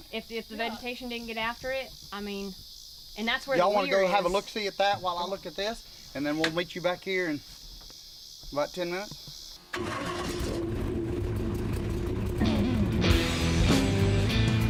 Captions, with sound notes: of open water down there, don't it. - If the vegetation didn't get after it. I mean, and that's where... - You all want to go have a look see at that while I look at this? And then we'll meet you back here in about 10 minutes. (engine starting) (rock music)